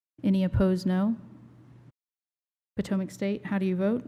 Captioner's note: silence